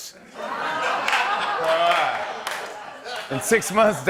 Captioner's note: laughter